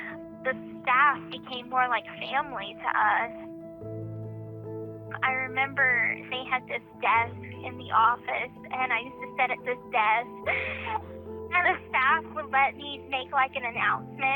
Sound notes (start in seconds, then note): 10.4 laughs